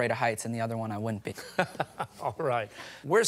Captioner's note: laughs